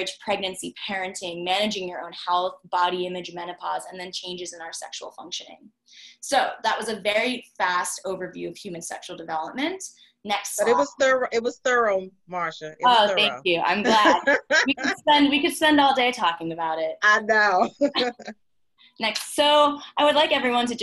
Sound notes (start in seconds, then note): 13.7 laughs; 17.4 laughs